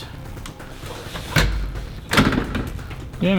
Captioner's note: clattering and rattling